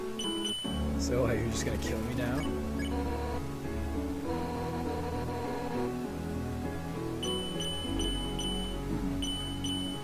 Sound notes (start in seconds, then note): none